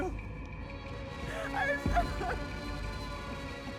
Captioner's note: crying